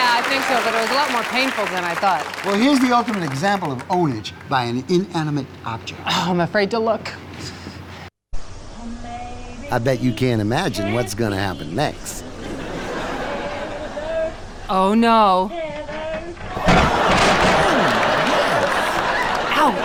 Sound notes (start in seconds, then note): 16.5 crashing and audience laughing